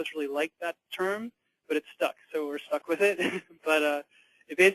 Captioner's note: laughter